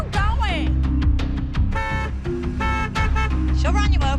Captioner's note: horn honks